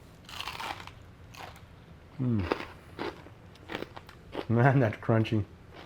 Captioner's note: crunching and chewing